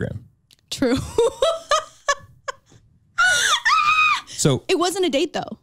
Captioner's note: laughs